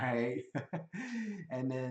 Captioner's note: laughs